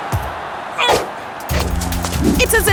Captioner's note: grunting